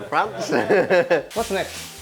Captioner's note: laughs